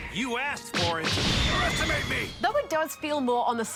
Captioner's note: none